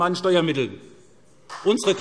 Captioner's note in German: Beifall SPD